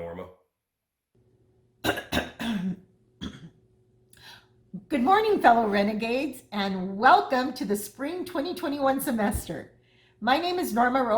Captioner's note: clears throat